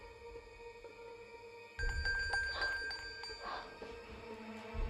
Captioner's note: distant bell